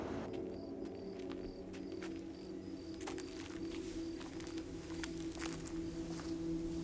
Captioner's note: eerie music; crickets chirping